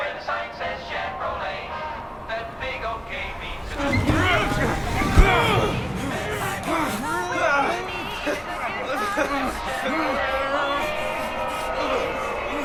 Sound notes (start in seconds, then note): 4.9 cheerful music on radio; 4.9 grunting